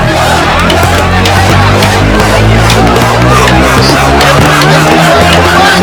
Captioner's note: protest Commotion